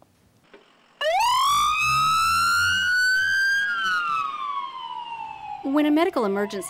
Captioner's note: nats: ambulance siren